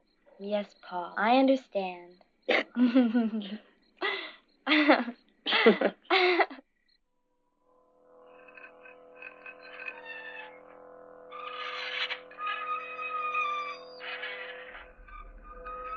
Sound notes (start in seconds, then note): 2.5 both chuckling; 7.0 ominous music; 9.5 lid squeaking